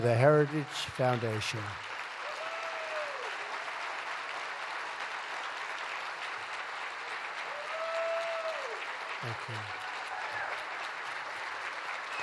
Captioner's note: applause